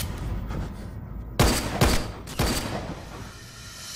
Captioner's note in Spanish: Clic; Disparos